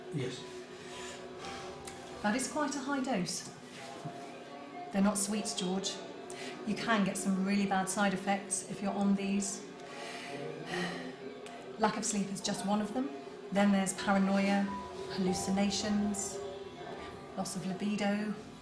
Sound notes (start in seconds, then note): 10.6 sighs